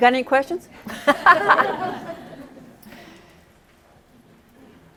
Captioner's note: laughter